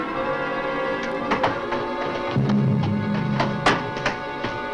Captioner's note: suspenseful orchestral music; door closes